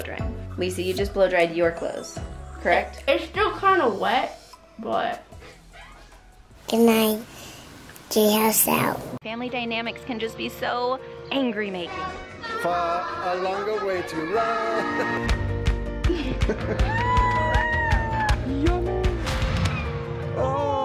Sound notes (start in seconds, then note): 14.1 upbeat music; 16.0 laughs; 16.6 family cheers